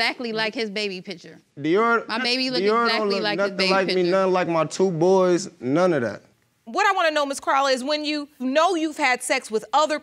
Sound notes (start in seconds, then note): none